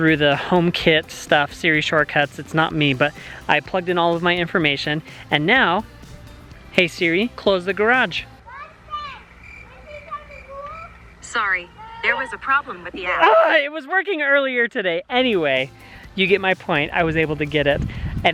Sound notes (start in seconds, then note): 9.0 crickets chirping; 13.1 groans